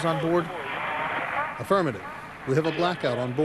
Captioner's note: through translator